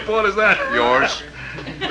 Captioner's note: chuckles